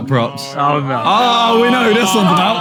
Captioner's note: panel groaning